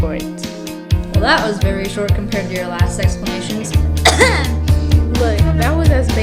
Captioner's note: coughs